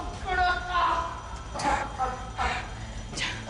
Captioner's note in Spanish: Quejidos